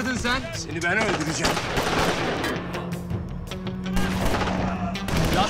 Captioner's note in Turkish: Silah sesleri